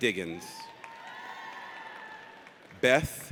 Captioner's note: audience cheers